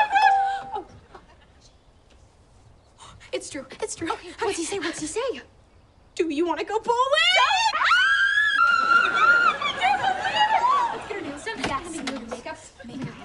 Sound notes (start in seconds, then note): 0.1 cell phone dings; 7.3 all scream; 11.0 indistinct chatter